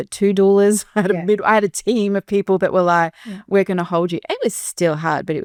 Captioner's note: chuckles